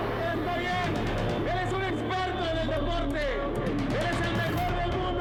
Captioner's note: announcer shouting in Spanish